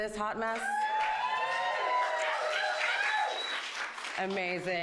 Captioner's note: audience cheers